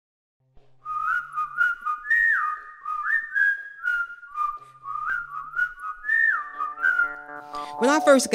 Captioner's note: whistling